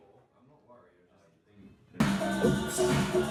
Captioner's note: speaks faintly